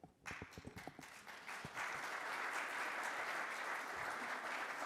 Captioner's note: audience applauds